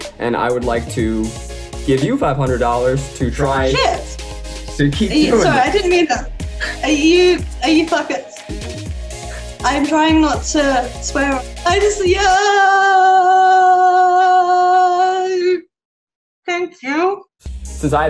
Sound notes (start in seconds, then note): 7.4 stuttering